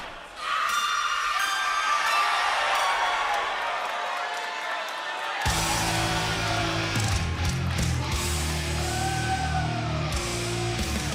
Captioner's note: cheers and applause